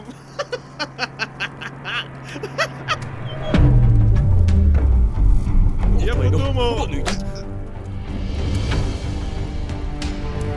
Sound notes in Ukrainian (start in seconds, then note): 1.7 хрипить; 3.4 епічна драматична музика